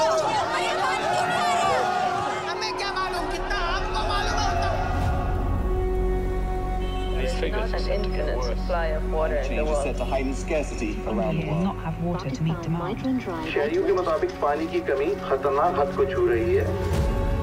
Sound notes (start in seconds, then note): 2.6 people speaking in foreign language; 13.1 speaking in foreign language